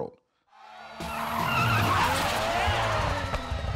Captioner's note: car engine revving